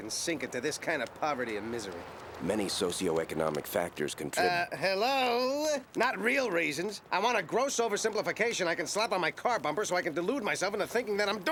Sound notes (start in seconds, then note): none